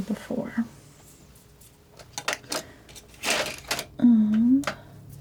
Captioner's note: scratching